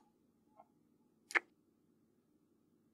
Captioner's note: kiss